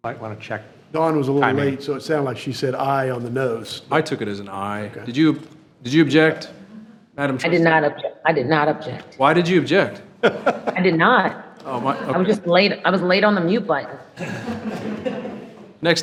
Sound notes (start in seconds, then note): 10.2 trustees chuckling; 14.1 attendees chuckling